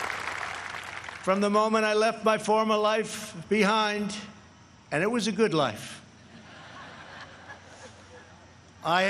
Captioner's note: applause